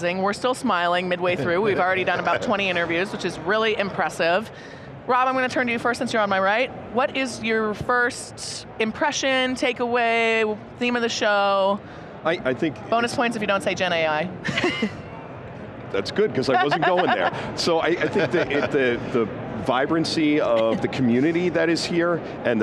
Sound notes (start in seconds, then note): 14.6 all laugh